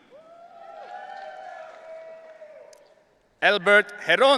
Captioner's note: audience cheering